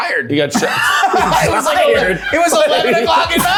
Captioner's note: everyone laughing